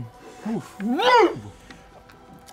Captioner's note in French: grogne